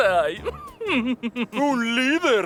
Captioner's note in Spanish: Risas